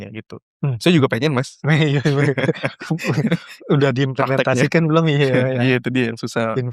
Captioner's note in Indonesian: tertawa